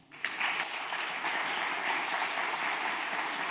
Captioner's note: applause